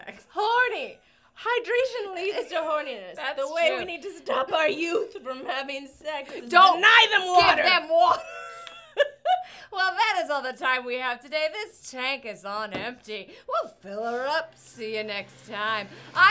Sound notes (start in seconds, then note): 9.4 laughs